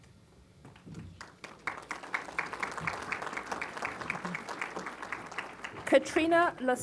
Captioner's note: applause